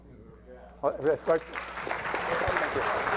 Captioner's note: applause